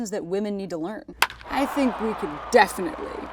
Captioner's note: crowd cheers